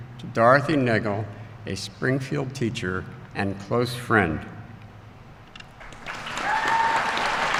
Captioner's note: applause